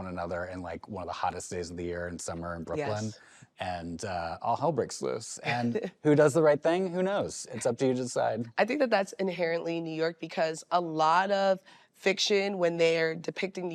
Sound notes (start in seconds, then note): 5.4 chuckles